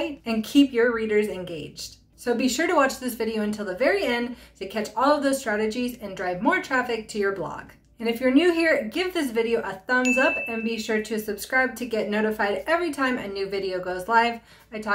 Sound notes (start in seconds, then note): 10.0 chime